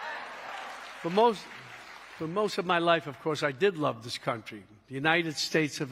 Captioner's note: cheering